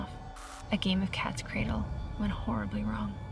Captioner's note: static crackles